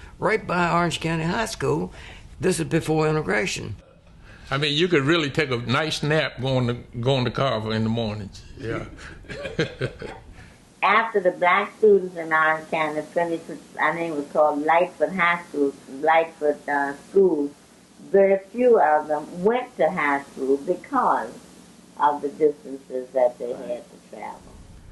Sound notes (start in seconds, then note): 8.6 laughs